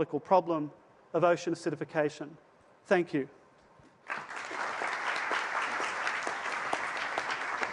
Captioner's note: applause